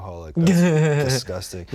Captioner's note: laughing